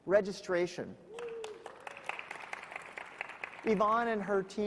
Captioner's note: audience clapping